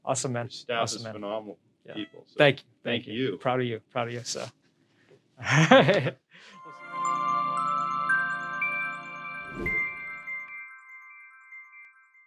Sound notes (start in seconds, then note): 5.2 laughs; 6.5 light instrumental